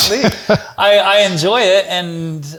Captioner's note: chuckles